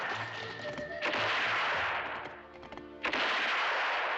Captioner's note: gunshot